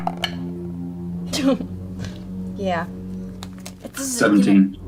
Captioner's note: laughs